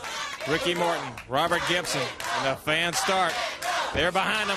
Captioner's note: crowd cheering